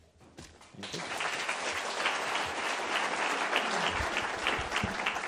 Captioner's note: attendees applauding